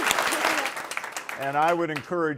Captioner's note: applause